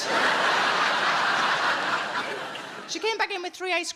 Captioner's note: audience laughing